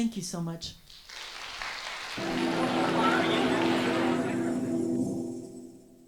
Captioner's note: audience applauds